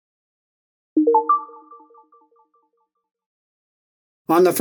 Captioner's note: electronic dinging